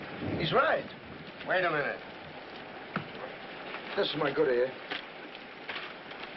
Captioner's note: whispering